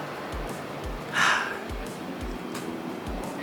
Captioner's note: sigh